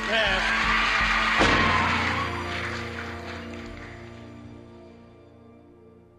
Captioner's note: audience cheering; gavel bangs